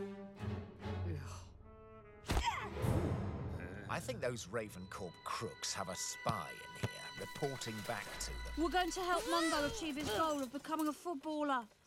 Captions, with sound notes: [dramatic music] Eegh [thud] Yahh! Hmmm I think those Raven Corp crooks have a spy in here, reporting back to the them We are going to help Mungo achieve his goal of becoming a footballer.